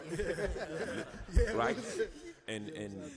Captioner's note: laughs